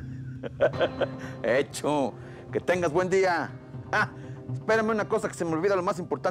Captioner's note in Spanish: risas